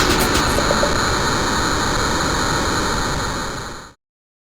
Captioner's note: rocket engines